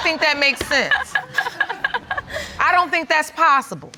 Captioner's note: audience laughing; laughing